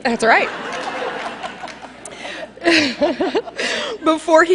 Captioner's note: laughter